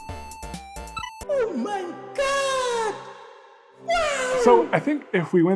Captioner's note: voice-over